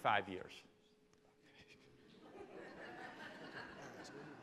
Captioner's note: laughing